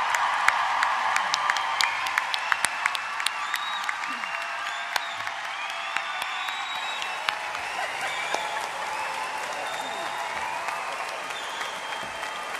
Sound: applause

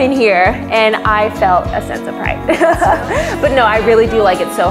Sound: chuckles

